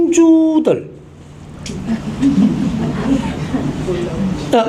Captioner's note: murmurs and laughter in the audience